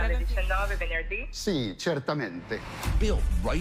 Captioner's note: non-english speech